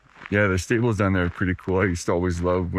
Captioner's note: footsteps crunching